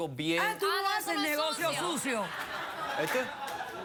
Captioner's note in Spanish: risas